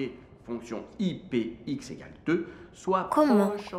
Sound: teacher speaking

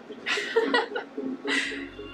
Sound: laughs

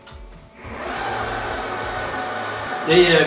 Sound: click... whine from a lot of fans

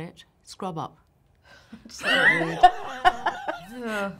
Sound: laughs

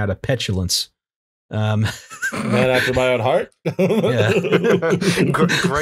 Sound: laughter

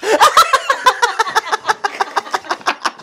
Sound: maniacal Laughter

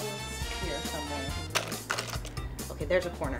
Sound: puzzle pieces clinking

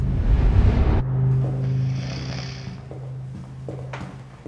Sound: snoring

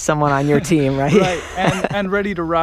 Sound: laughs

